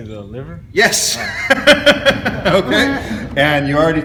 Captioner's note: laughs